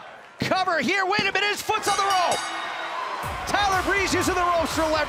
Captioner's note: bell ringing